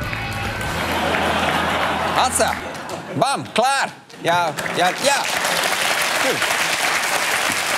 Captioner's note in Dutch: applaus